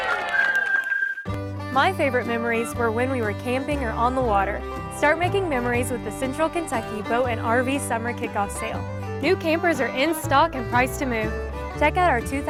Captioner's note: applause